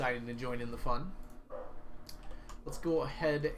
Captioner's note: Brady barks outside door